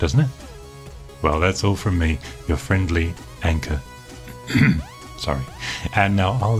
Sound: coughs

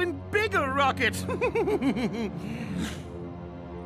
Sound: evil laugh

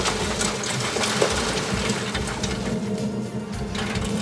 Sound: crawfish clatter

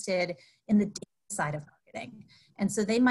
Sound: audio cuts off

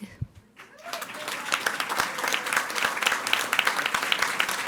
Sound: audience applauding

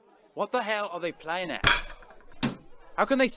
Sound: cutlery clinks

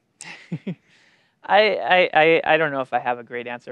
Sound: laughs

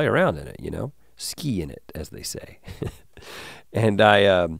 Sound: chuckles

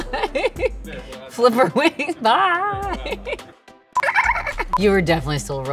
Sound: chuckling; laughing

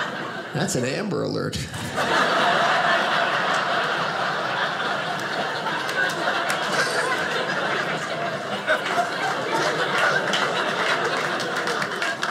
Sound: audience laughing

